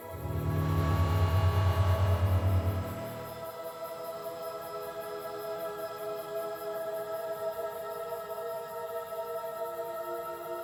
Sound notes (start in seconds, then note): 0.0 buzzing